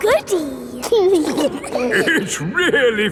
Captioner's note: giggling